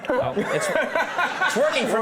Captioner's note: Ben laughs